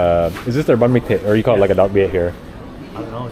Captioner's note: speaking Vietnamese